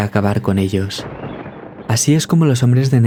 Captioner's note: thunder